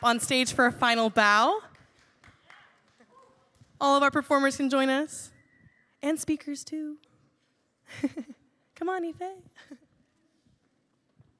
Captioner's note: laughs